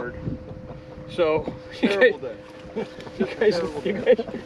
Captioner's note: laughter